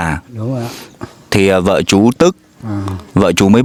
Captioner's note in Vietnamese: khịt mũi